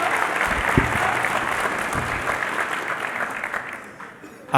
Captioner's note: applause